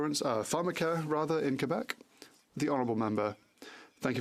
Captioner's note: speaking French